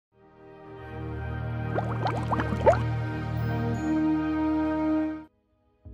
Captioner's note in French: Le goblet fait un bruit de bulles